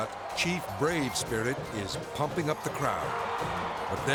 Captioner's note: crowd cheering